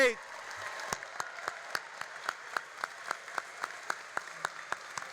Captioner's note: all applauding and cheering